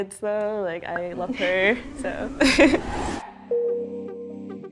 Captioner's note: whooshing sound; gentle music